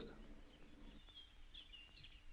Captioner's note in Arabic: الدردشة في الخلفية